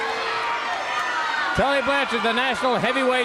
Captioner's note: crowd cheering